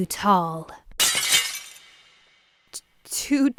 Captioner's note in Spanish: el vidrio se rompe